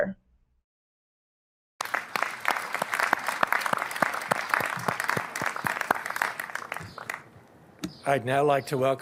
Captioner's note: applause